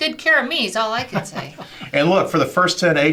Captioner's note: laughs